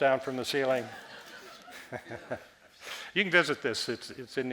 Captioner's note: audience laughing